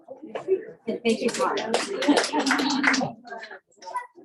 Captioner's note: clapping